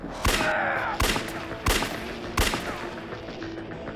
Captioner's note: gun firing; Hunter groaning; suspenseful music